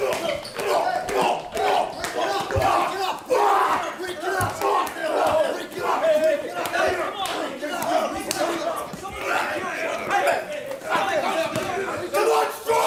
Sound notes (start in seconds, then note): 1.4 screaming